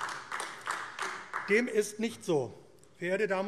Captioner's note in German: Beifall AfD